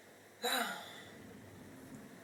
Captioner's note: deep sigh